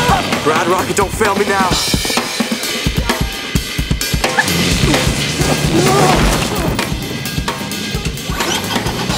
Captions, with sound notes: Ride Rocket, don't fail me now. [engine revving]